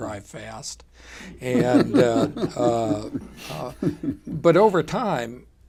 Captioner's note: laughter